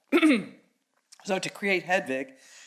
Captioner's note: coughs